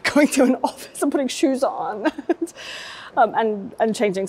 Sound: chuckling

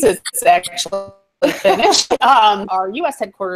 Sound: laughter

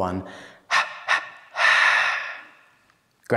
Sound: breathy exhale

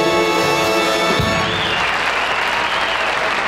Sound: audience clapping

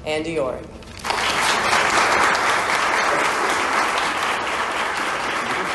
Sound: applause

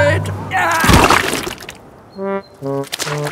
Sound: groans

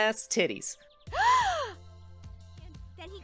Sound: KOTONOHA gasps

